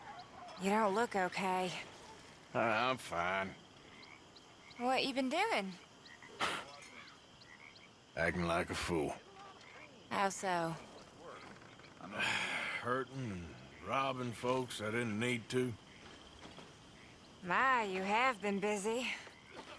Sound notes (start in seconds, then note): 6.4 sighs; 12.0 grunts